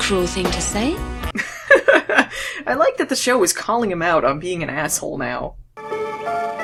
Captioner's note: laughs